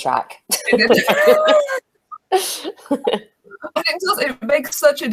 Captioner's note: laugh